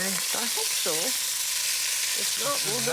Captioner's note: sizzling